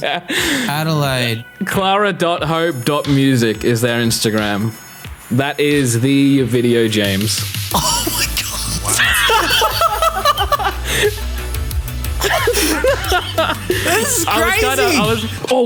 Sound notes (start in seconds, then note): 7.8 everyone laughing